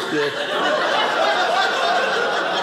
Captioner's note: audience laughing